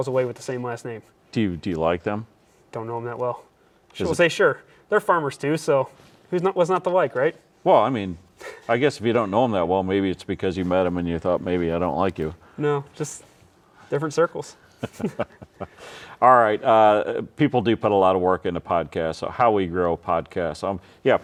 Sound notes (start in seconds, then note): 14.6 laughing